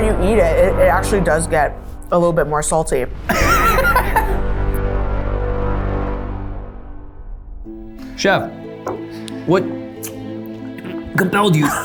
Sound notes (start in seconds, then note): 3.3 laughs